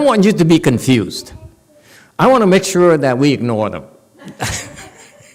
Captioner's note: laughs